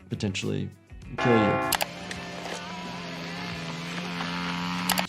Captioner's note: airplane buzzing